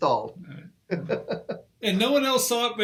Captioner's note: laughing